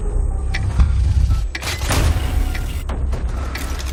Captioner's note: ticking